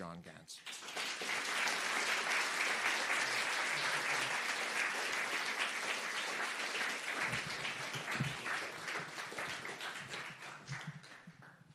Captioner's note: applause